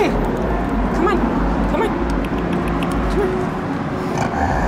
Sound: tongue clicks; growl

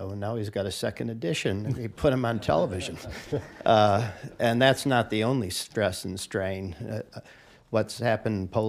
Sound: laughter

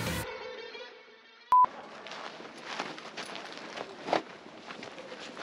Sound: excited music; test tone bleeps

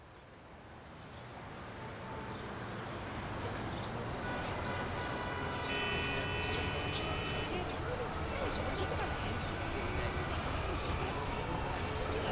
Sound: cityscape sounds

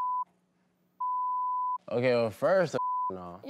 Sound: beep

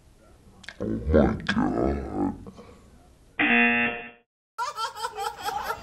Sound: buzzer rings

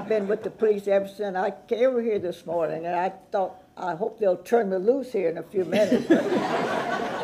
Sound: laughter

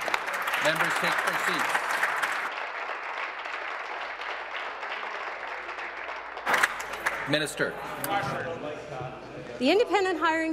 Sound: applause

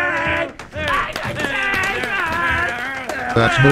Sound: applause

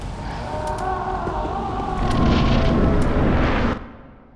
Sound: Oceiros screaming

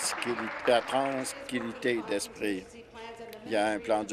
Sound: applause

